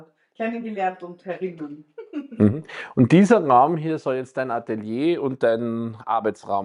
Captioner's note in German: räuspern